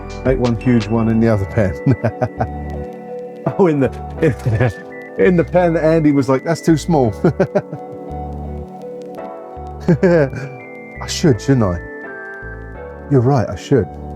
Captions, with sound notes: I make one huge one in the other pan. (laughing) Oh, in the pan that Andy was like, that's too small. (laughing) I should, shouldn't I? You're right, I should.